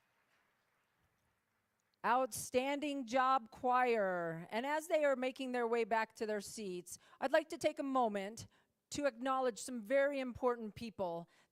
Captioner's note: applause